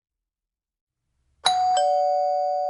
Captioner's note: doorbell rings